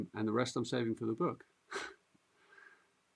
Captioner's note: chuckles